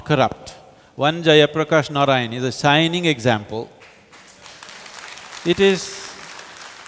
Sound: applause

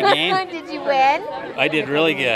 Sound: laughs

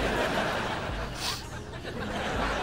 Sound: sniffing

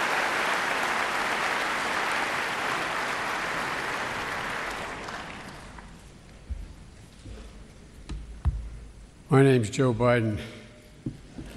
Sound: applause

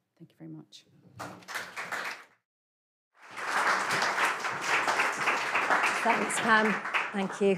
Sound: applause

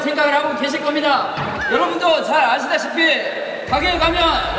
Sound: laughs

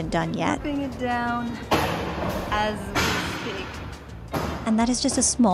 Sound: demolition sounds continue

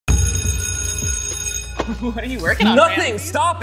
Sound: bell ringing

